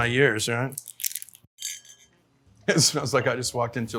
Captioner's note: label crackling; glass clinking; laughs